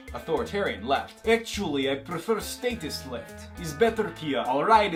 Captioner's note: russian Accent